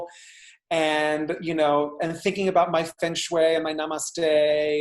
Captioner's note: speaking in foreign language